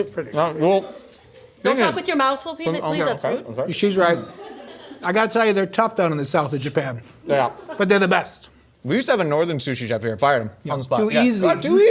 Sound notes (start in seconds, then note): 4.2 laughing